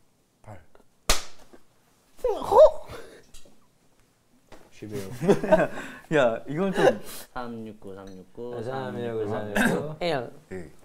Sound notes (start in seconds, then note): 1.0 clap; 3.2 can't resist laughing